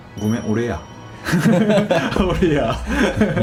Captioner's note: laughs